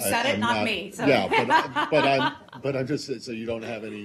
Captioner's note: laughter